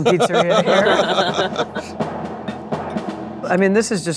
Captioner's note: laughing